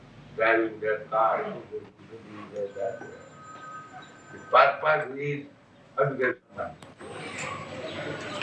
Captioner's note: makes noise of cars